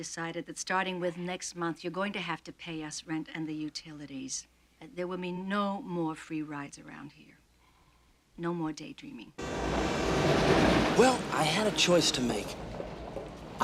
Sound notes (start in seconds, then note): 9.4 train horn honking